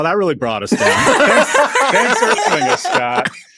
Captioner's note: everyone laughing